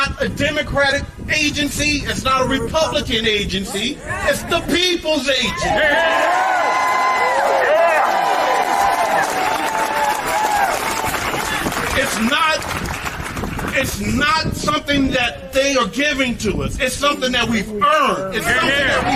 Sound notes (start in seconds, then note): 8.4 applause